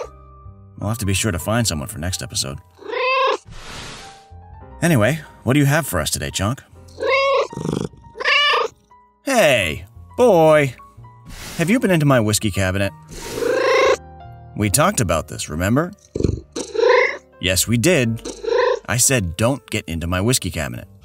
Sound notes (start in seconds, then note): 3.1 meow; 13.2 meow; 16.2 meow; 16.6 disagreeing meow